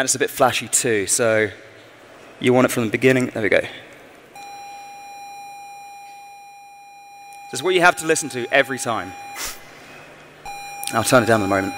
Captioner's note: electronic screeching sounds